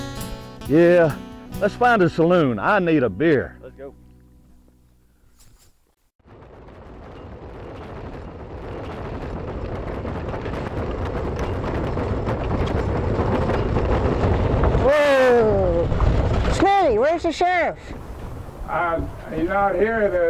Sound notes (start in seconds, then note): 6.8 wagon rattles